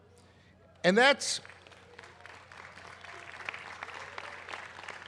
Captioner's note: applause